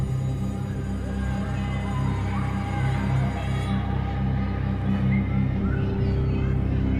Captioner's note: school bell ringing; children joyfully screaming; children chattering; tense music